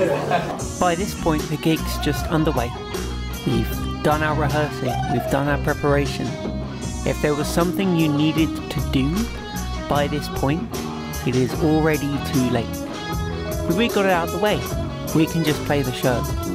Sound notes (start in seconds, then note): 0.0 audience laughter; 2.3 voiceover